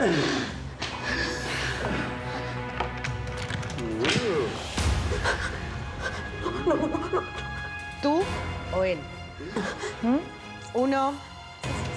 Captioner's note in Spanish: sollozos de gastón